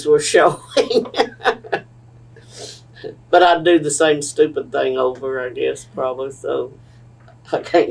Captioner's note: laughs